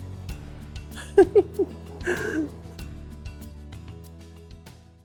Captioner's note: woman laughing